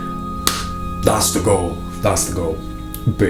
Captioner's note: hand smacks